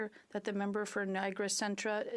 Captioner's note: speaking French